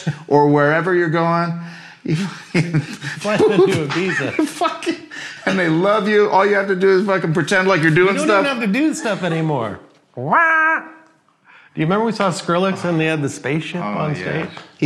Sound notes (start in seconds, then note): 2.1 laughs; 10.2 mimicking electronic music